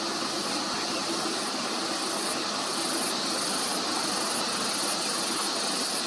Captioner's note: engine